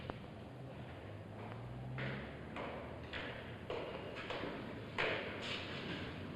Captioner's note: footsteps